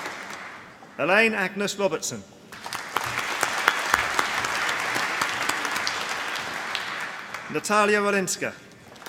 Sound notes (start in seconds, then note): 0.0 applause; 2.5 applause